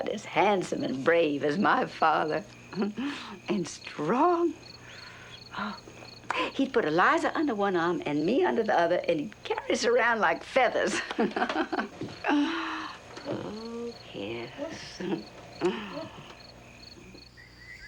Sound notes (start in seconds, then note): 10.8 laughs